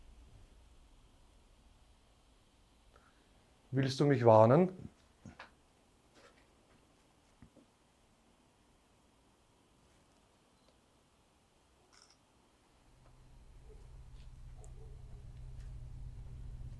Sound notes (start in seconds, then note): 6.4 silence in the background; 15.8 dark music in the background